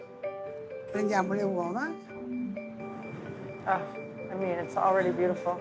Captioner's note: speaking Italian